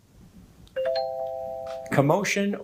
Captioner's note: bell ringing